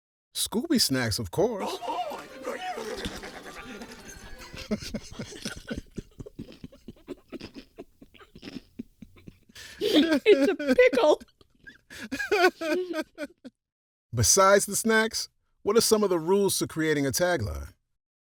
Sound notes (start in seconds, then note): 4.3 laughs wildly; 6.2 both hold back giggles as crunch-crunches; 11.9 lets his laugh out